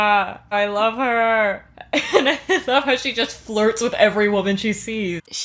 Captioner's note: laughing